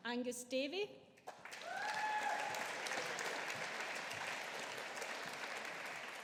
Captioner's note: audience applauding